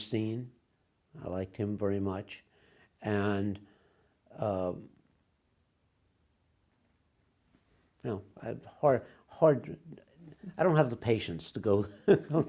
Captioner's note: laughs